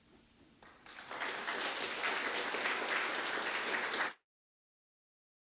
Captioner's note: applause